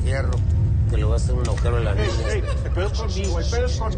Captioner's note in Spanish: Sollozos